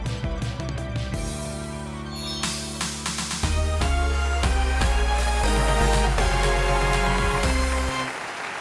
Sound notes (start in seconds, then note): 3.1 audience applauds; 3.1 enthusiastic music